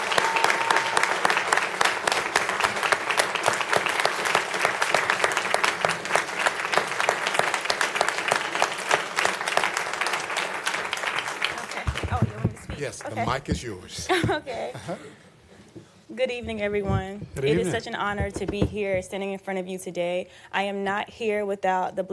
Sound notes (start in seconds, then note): 2.4 applause